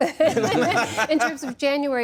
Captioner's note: laughter